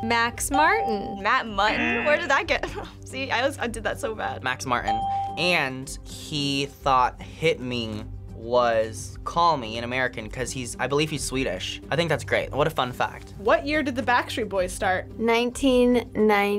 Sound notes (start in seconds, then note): 4.9 bell rings